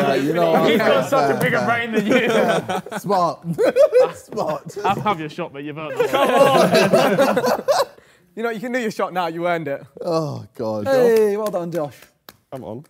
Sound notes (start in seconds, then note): 3.4 laughs; 5.9 Sidemen laugh